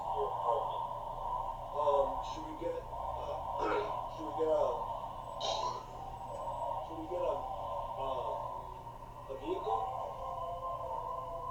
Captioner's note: nervous, clearing her throat